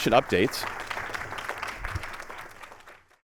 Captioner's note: applause